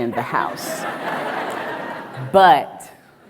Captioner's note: audience laughs